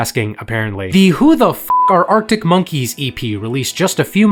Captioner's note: beep